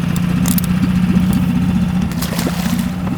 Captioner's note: hook clicks; water splashes